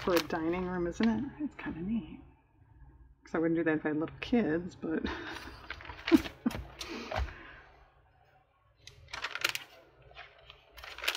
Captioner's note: laughs